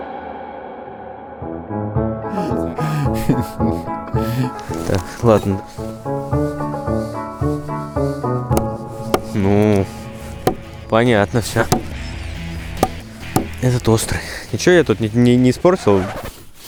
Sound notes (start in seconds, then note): 2.3 laughing